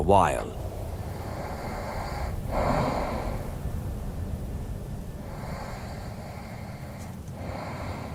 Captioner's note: breathing and light snores